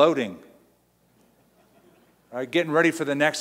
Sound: laughing

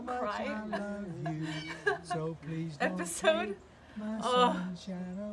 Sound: laughs

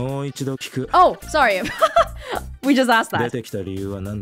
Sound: chuckles

